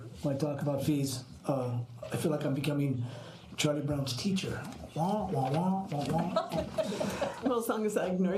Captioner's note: laughter